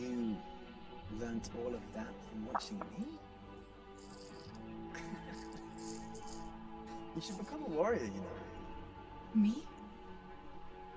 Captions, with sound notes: - You learnt all that from watching me? (laughing) You should become a warrior you know. - Me?